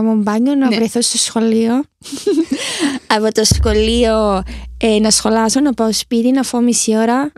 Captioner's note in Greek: γέλια